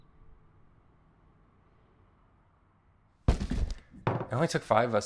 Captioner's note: outdoor sounds